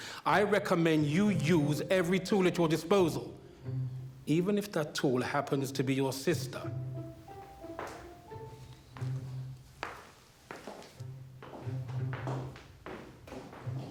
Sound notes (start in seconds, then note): 9.9 footsteps plodding